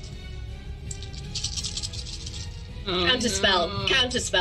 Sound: lots of dice rattling

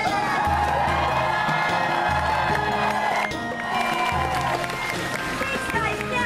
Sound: audience Claps and Cheers

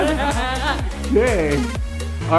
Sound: laughing

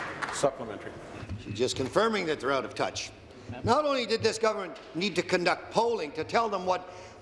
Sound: applause

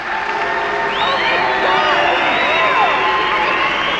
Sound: people booing; people cheering and clapping

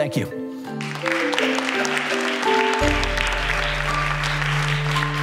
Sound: applause

